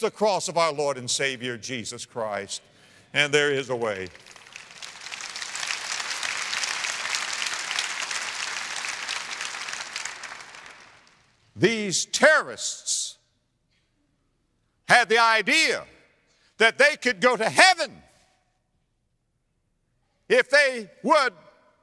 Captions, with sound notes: CROSS OF OUR LORD AND SAVIOR JESUS CHRIST. AND THERE IS A WAY. [AUDIENCE APPLAUSE] THESE TERRORISTS HAD THE IDEA THAT THEY COULD GO TO HEAVEN IF THEY WOULD MURDER OTHERS AND